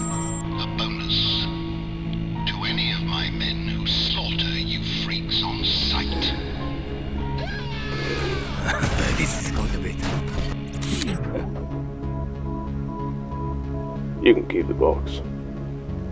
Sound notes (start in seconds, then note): 6.7 colonel's scream